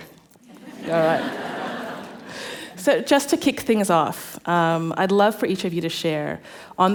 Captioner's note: laughter